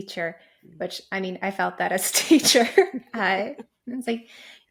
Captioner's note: laughing